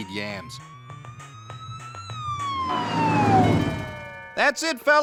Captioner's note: sirens wailing